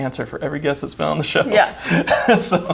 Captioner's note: chuckles